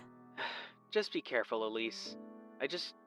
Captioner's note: phone vo